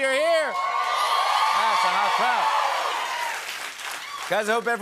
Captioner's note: cheers and applause